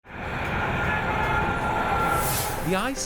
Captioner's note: traffic humming